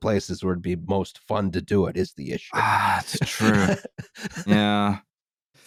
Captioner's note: laughs